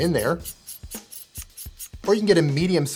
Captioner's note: tripod squeaks